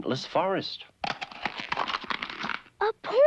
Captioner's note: egg cracking